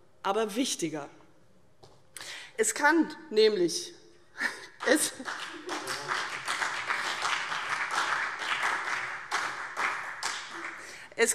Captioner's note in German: Beifall CDU